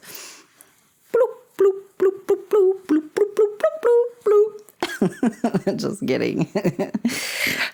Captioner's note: making bloop sounds to the tune of Mario; laughter